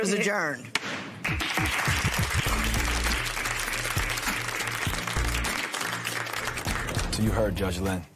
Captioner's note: applause